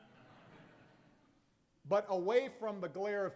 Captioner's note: laughter